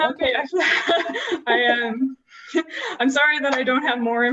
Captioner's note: laughter